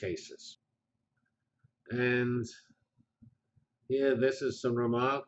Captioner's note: pause